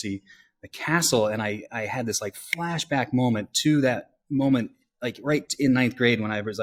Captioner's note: snaps